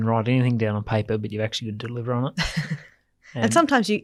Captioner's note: laughs